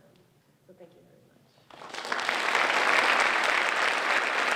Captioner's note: applause